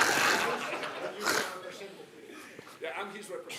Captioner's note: laughter